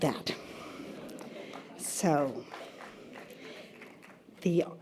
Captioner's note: audience laughter